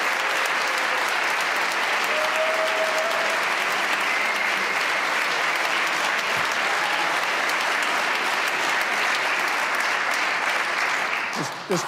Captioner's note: cheers and applause